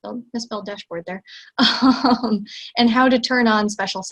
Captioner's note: laughs